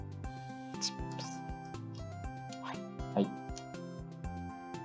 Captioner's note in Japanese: 呟き